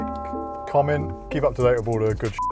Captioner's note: beep